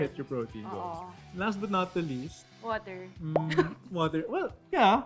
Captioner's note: chuckles